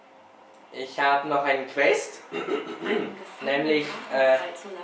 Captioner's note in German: räusper